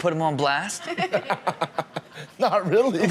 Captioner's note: guest laughs